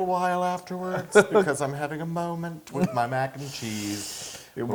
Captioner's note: laugh